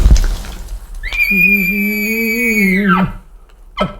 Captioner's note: cow mew